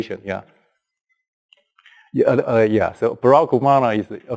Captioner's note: pause